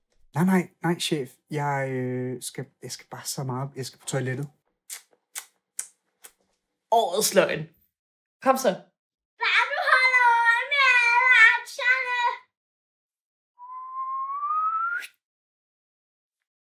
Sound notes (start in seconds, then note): 4.7 clicks tongue; 13.6 he whistles